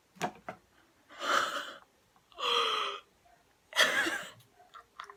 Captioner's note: confused wheezing laughter